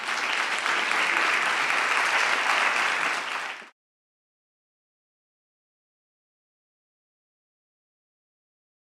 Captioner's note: applause